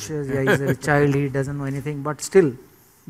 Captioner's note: laughter